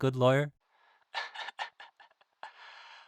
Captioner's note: chuckles